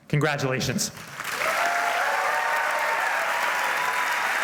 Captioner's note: applause